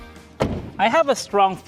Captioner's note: door closes